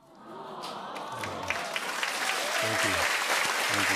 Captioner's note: applause